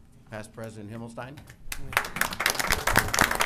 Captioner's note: applause